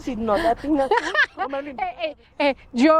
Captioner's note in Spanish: Risas